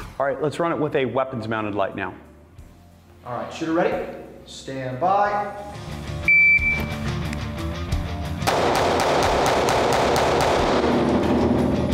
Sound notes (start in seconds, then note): 6.2 beep; 8.4 gunshot sound